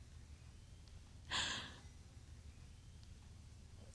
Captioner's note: sobs